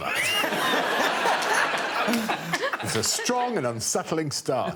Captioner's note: all laughing